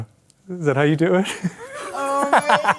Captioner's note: laughs